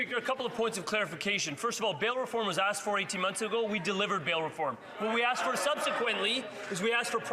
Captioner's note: some Applause